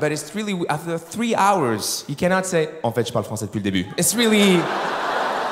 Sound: french

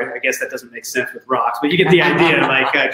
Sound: chuckling

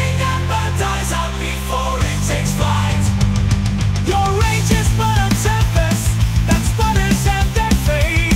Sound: aggressive

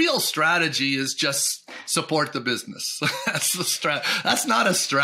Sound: chuckles

